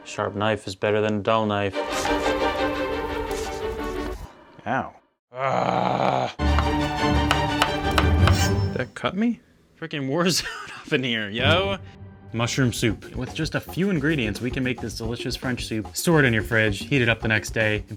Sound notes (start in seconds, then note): 1.8 cheerful orchestral music; 5.4 growling dramatically; 6.6 cheerful orchestral music; 7.0 knife chopping; 7.9 knife slices